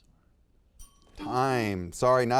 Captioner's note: students whisper; bell dings